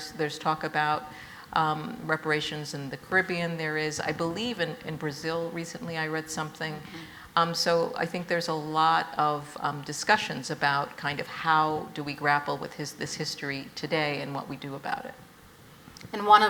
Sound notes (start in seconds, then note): none